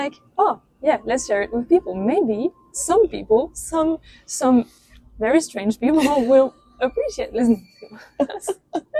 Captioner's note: laughs